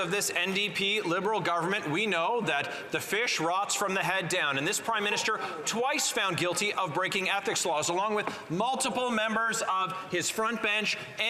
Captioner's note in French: voix de l'interprète